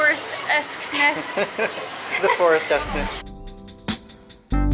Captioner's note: laughter